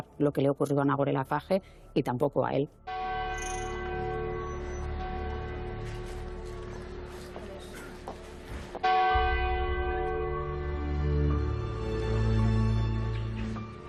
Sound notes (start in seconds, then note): 2.9 bells chime; 8.8 sad music